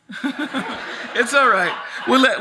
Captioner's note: audience laughs